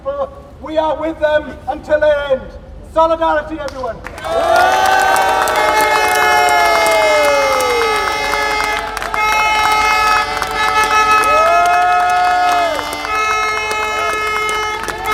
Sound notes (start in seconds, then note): 4.0 applause